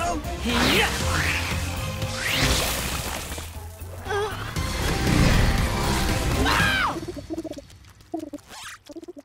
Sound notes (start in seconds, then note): 6.4 shrieking; 6.8 cooing